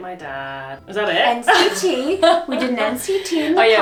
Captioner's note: laughs